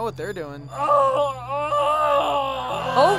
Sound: screaming; crowd panics

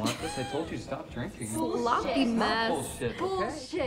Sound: laughs

